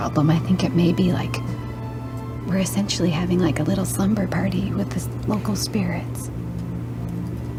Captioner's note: none